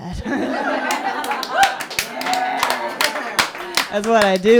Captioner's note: laughter; applause